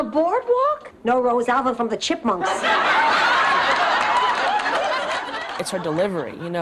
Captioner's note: laughs